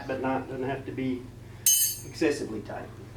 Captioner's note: clank